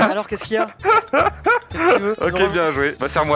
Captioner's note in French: rires